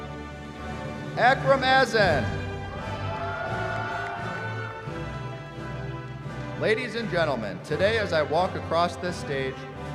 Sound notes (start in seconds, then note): 2.6 cheering